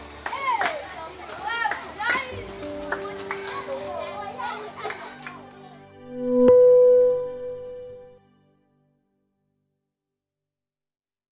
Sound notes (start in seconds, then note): 0.0 children chattering and clapping; 2.4 soft piano music; 6.0 electronic tones